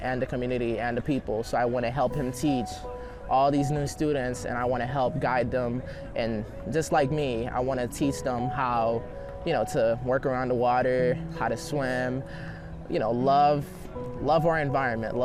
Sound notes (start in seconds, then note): none